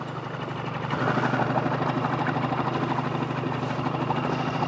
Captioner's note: motor humming